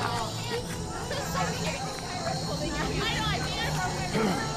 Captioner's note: chattering; growls